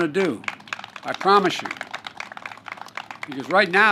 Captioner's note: applause